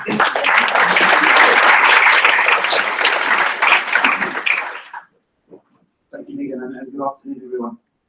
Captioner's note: applause